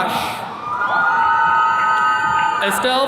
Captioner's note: attendees cheering